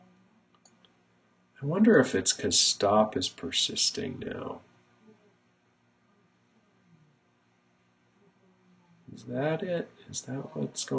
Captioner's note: clicking and working in silence to figure out mistake